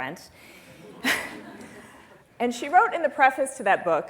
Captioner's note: laughter